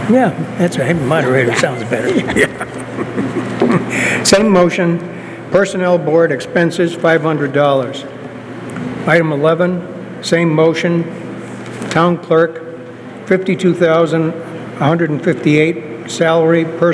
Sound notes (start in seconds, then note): 3.2 laughter